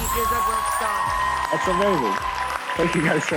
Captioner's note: audience applauding